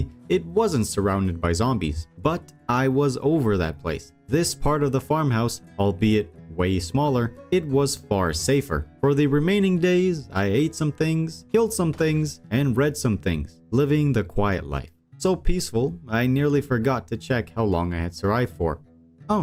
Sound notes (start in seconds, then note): none